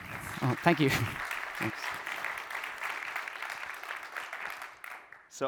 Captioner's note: applause